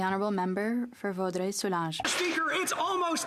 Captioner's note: some Applause